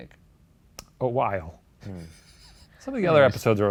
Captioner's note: laughs